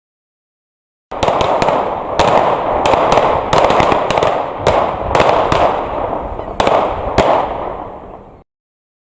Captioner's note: gun shots